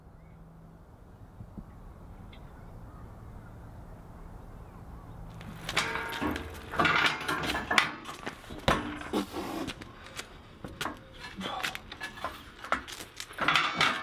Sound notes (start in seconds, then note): 5.2 metal clanking; 9.3 groans